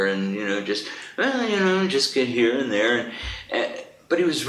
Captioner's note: hums a tune